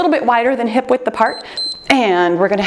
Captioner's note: timer beeps